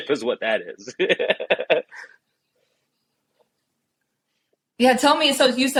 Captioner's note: background laughter